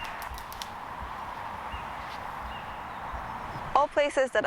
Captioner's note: traffic noise